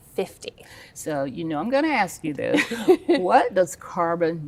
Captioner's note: laughs